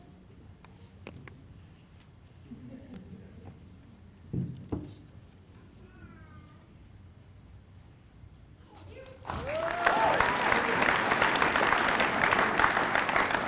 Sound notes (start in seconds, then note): 1.5 applause